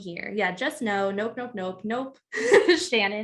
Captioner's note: laughs